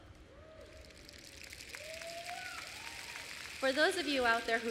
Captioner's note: applause and cheers